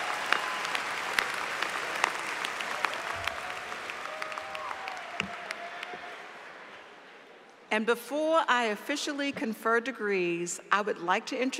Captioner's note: applause